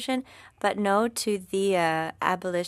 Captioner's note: speaking French